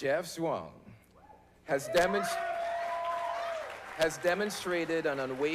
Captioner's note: applause